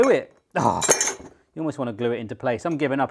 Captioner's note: utensils clanging